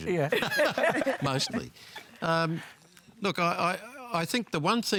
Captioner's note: laughter